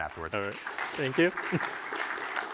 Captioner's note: applause